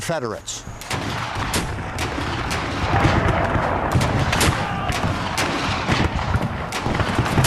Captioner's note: guns firing; soldiers shouting